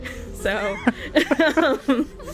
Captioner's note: laughs